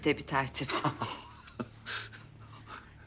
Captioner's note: laughter